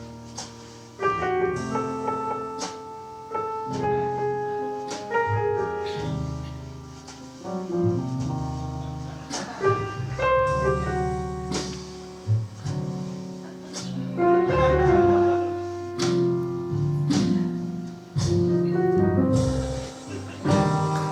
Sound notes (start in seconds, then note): 0.1 jazz piano continues; 5.8 audience sounds: shuffling, coughing; 7.3 jazz piano continues; 13.4 audience laughing; 16.0 jazz piano continues